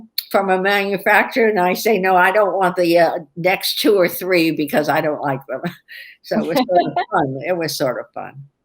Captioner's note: laughter